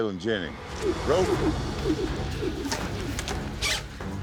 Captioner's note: ropes swirling through air